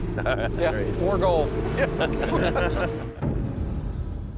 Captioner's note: laughter